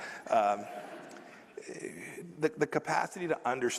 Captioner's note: laughter